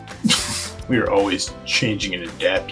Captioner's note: laughs